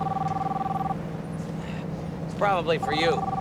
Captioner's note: phone ringing